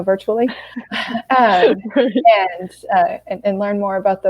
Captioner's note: laughing